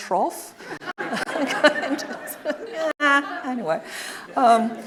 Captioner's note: audience laughing